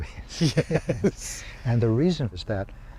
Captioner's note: laughing